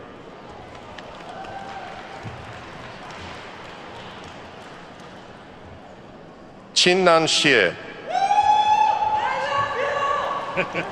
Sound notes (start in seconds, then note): 0.4 attendees clapping; 8.0 attendee whooping; 10.4 faculty members laughing